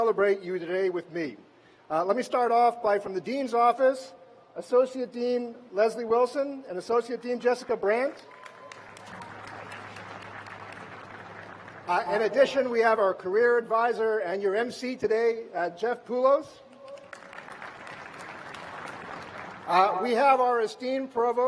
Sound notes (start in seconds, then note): 11.9 applause